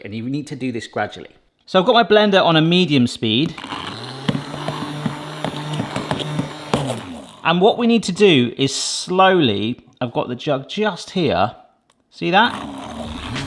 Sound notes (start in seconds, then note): 3.4 blender whirring